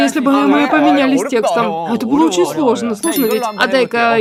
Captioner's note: Ворчание